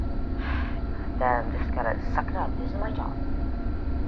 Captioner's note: sigh